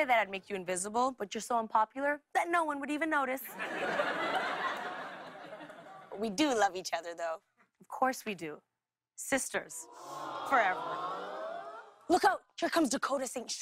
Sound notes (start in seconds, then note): 9.9 audience awws